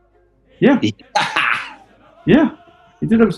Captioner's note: cackles